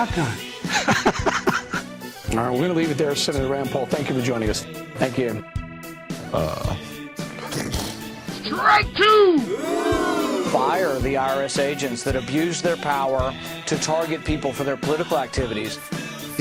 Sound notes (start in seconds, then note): 0.7 begins laughing; 9.4 begins crying